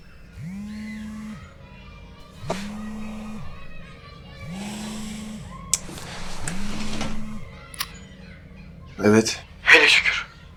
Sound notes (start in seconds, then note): 0.3 phone vibrates; 4.8 sighs and clicks tongue in annoyance